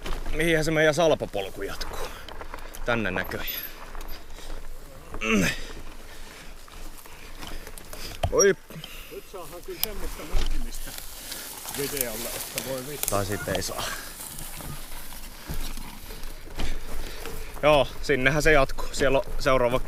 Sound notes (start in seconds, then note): 5.0 grunting; 9.0 quietly from behind